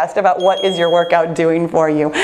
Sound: bell dings

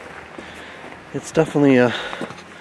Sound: stream flowing; footsteps thudding

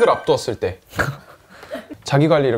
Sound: haha

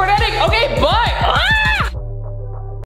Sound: screams

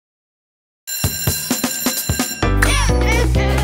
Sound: bell ringing

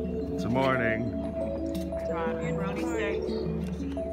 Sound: none

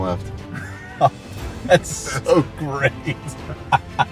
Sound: laughs

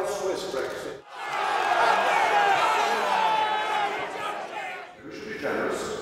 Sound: football supporters jeering

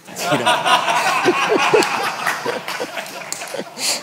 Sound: audience laughs

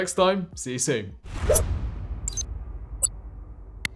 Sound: air whooshing

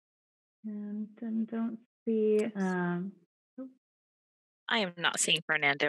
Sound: faintly speaking

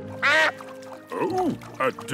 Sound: quacks

